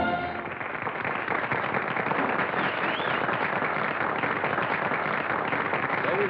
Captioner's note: applause